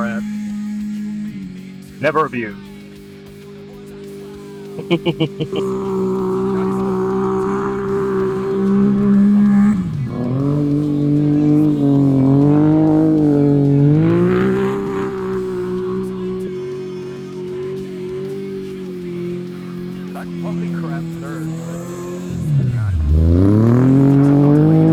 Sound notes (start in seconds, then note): 9.0 laughing; 9.8 engine revving; 20.7 speaking foreign language